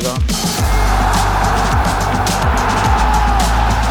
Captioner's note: audience cheering